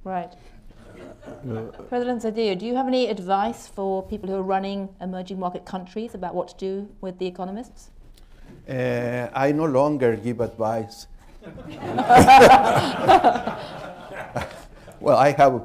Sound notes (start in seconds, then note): 11.4 laughter